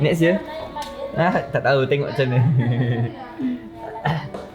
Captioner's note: laugh